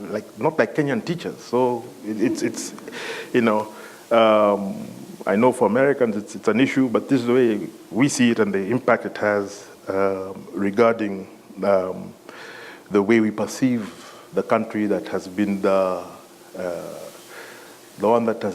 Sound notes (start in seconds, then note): 2.7 laughter